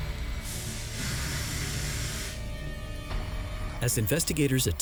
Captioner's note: fire hose hissing